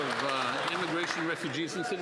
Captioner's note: some Applause